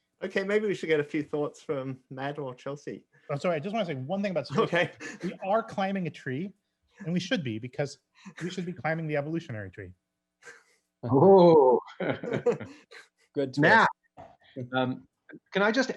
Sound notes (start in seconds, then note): 4.5 chuckles; 11.8 laughing; 11.9 all laughing